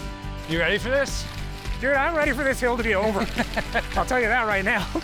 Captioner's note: laughing